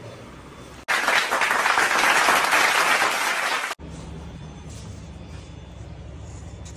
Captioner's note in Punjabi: ਤਾੜੀਆਂ